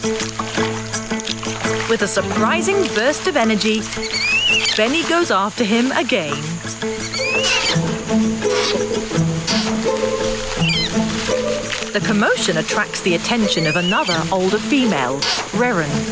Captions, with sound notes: With a surprising burst of energy, Beni goes after him again. (orangutan squealing) (upbeat quirky music) The commotion attracts the attention of another older female, Reren,